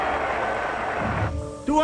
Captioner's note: crowd roars